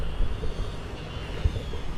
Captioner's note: street Noises